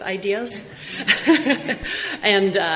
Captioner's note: laughs loudly